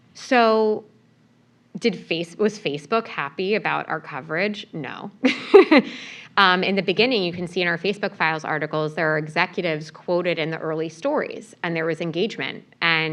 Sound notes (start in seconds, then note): 5.2 laugh